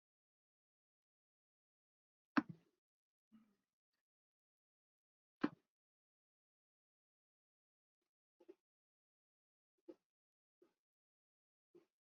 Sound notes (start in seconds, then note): 9.1 silence